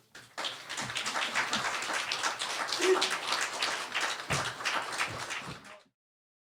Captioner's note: audience clapping